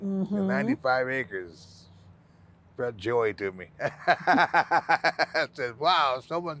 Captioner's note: laughing